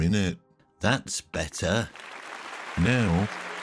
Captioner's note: hands clapping